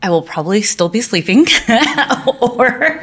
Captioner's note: laughing